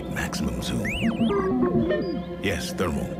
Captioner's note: beeping